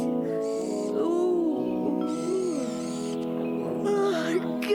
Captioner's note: yawns